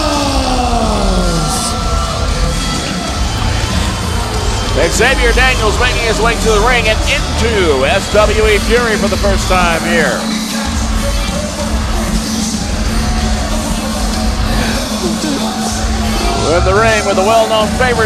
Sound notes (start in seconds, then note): 2.1 crowd cheers and jeers; 10.7 rock music plays